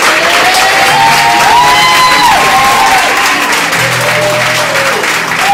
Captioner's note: audience cheering